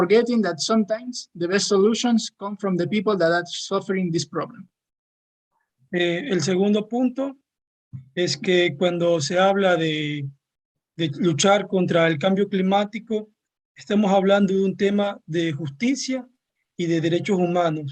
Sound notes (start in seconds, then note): 6.2 speaking Spanish